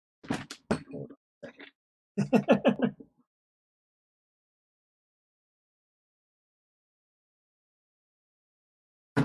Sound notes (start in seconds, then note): 2.2 laughs